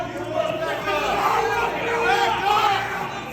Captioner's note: shouting